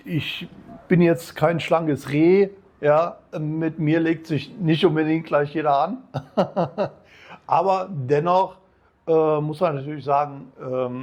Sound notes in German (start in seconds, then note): 6.1 gelächter